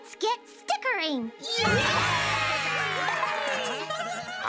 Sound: cheering

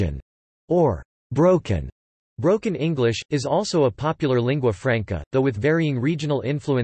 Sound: broken English

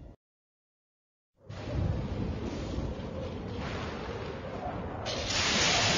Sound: thunders rumble; lightning crashing down as rousing fanfare plays

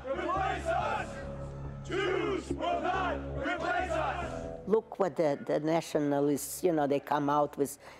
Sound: chanting

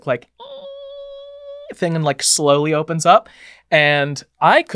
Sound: imitating creaking

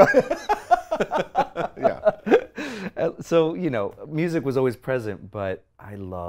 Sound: laughs

